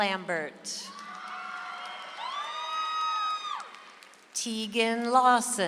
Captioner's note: audience applauds